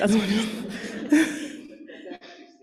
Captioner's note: laughter